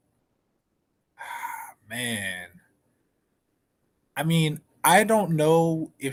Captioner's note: sigh